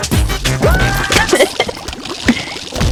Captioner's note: laughs to myself; exhales Oxygen